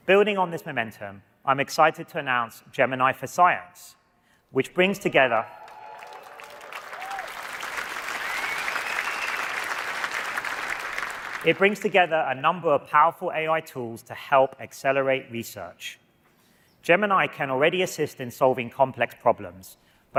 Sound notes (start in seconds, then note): 5.3 applause